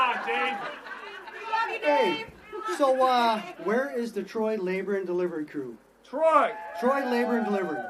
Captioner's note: laughter